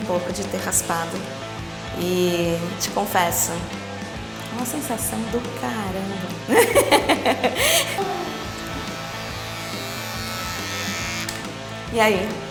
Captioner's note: laughs